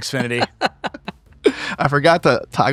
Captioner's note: laughing